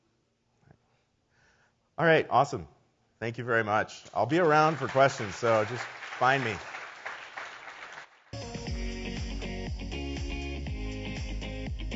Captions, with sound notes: All right, awesome. Thank you very much. I'll be around for questions so just find me. (audience applauds) (upbeat music begins)